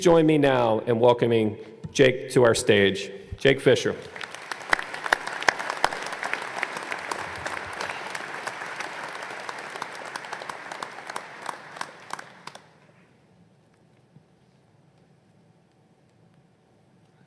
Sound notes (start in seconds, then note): 4.0 applause